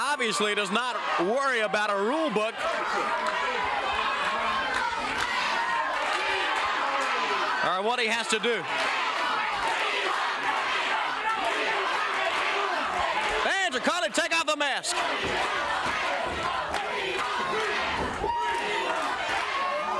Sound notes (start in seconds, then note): 9.7 crowd chants "We want the mask"